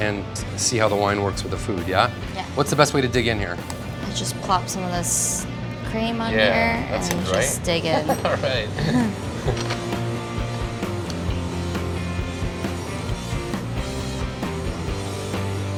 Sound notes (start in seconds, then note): 9.3 laughing; 12.8 soft rock music